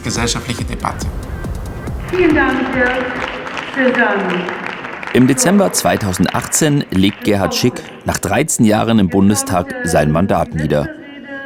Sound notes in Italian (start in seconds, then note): 2.0 Applausi